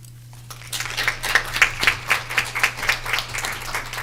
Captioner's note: applause